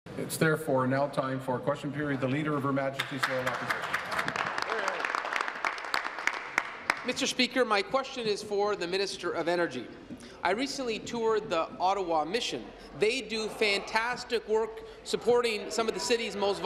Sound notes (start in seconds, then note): 0.2 applause; 8.0 applause